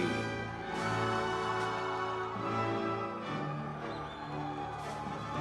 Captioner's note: audience members cheering